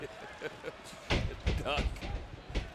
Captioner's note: Coach chuckles